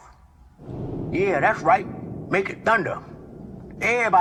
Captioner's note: thunder; sarcastically